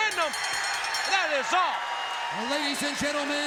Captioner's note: bell ringing